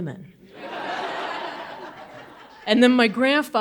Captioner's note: audience laughing